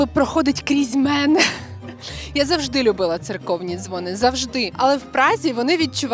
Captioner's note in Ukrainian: сміх